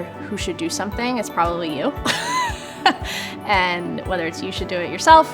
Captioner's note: chuckles